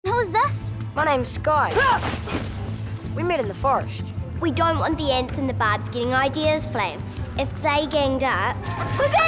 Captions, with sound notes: - And who is this? - My name's Sky. (Sky grunting) We met in the forest. - We don't want the Ants and the Barbs getting ideas, Flame. If they ganged up--